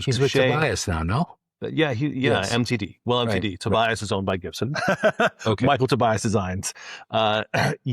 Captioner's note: laughs